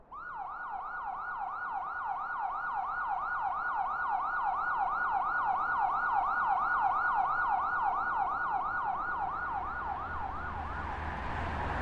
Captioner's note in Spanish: Sirena de patrulla